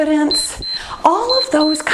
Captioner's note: timer beeps